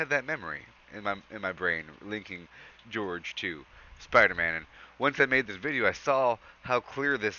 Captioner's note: breath